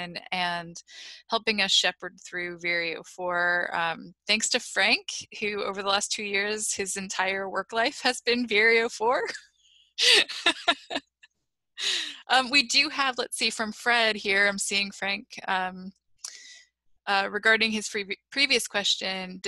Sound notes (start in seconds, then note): 10.0 laughter